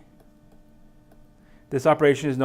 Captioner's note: tapping